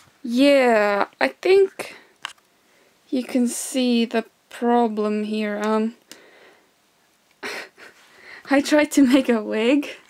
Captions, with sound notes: Yyyeah. I think you can see the problem here. (suppressed laughter) I tried to make a wig